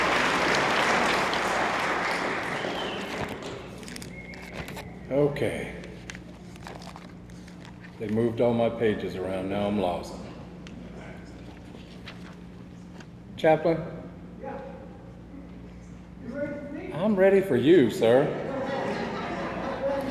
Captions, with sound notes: (object rustling) - Okay. (object rustling) They moved all my pages around, now I'm lost. (object rustling) - Chaplain? - Yeah. You ready for me? - I'm ready for you, sir. (attendees laughing)